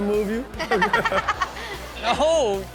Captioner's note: Chanel laughs